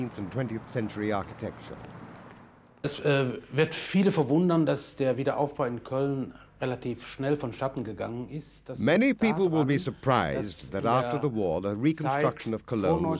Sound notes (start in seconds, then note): 2.9 speaking in a foreign language